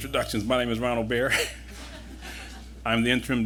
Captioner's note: laughter